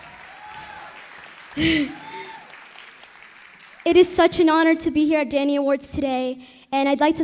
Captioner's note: chuckles